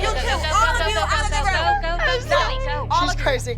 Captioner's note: sobbing